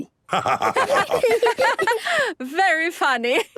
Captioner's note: laughter